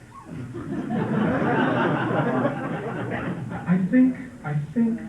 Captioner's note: laughter